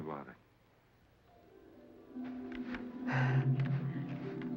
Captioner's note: breathing heavily